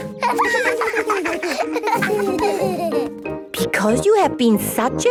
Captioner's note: laughter